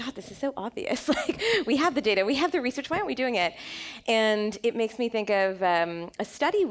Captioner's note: chuckle